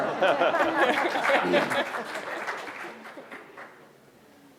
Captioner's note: laughter/applause